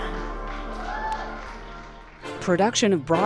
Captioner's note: cheers and applause